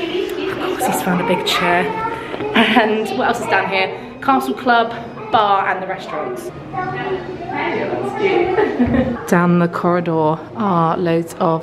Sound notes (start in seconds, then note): 8.1 giggles